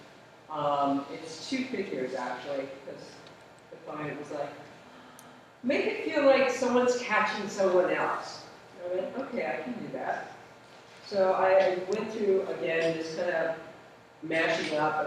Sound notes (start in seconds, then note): none